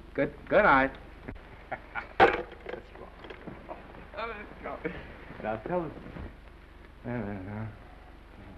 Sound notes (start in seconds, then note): 1.6 Norman laughs; 4.1 mumbles; 7.0 mumbles